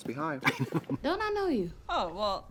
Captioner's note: Katya laughs